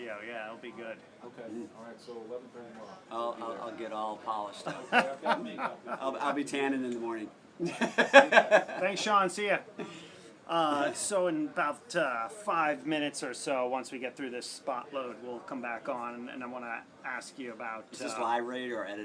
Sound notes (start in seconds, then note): 7.6 laugh